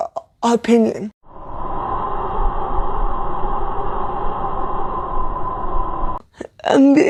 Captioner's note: wind whooshing